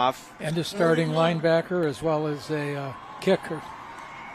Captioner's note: applause